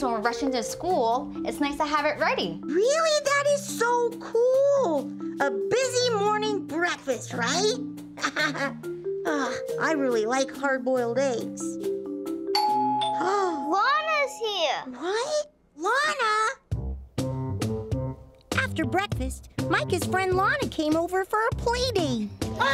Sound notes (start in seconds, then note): 8.1 laughs; 12.5 doorbell; 13.2 gasps